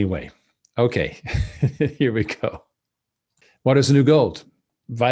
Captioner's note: laughs